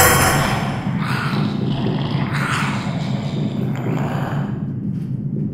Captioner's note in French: Bruits métalliques; Un monstre grogne